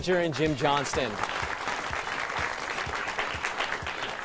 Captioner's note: applause